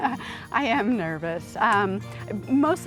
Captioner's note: laughs